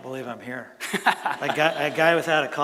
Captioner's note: laughs